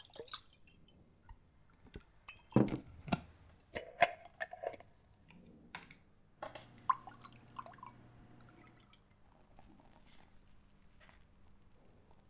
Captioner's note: container opening, liquid sloshing